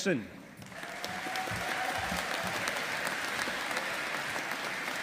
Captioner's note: audience applauding